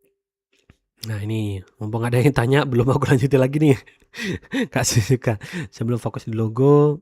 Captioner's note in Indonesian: tertawa